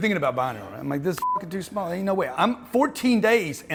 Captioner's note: beep